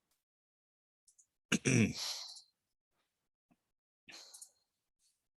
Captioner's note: clears throat